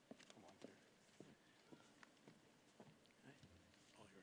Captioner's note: none